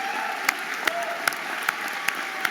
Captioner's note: audience applauding and cheering